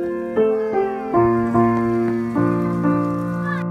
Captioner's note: gentle breeze blows on the fluff